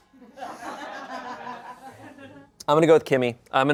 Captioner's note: people laugh